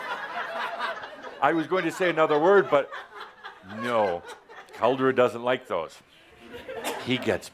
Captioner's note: laughter